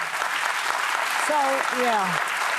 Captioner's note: audience applauding